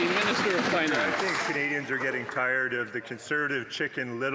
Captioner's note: some Applause